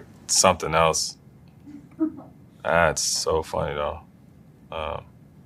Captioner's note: laugh